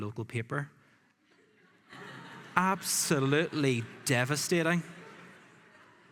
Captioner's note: laughing